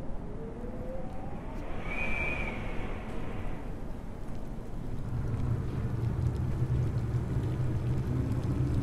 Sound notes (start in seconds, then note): 0.8 wind howling